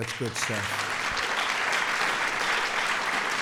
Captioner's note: applause